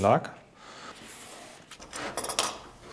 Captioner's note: jingling